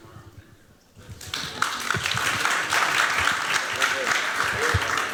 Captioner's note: applause